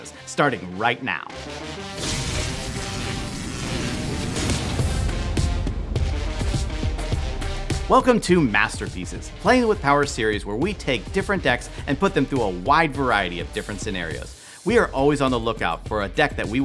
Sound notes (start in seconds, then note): 1.8 electricity crackling; 4.9 upbeat electronic music